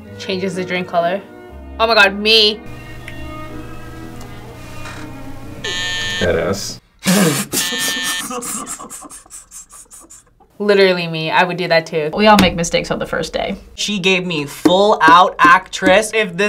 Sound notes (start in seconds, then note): 0.0 somber music; 5.6 buzzer rings; 7.0 laughs; 7.5 buzzer rings